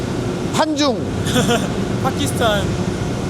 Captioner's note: laughs